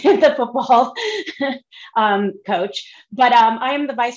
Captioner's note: laughs